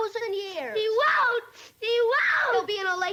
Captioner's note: sobs